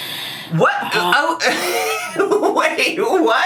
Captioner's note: laughs